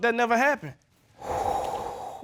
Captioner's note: Judge Keith exhales